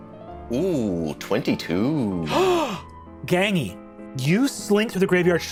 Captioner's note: gasps